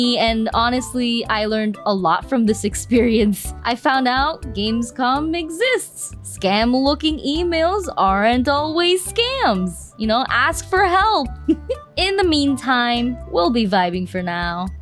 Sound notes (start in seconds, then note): 11.4 teeHee!